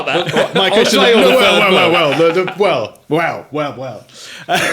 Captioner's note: all laughing